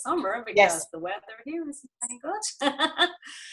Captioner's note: laughs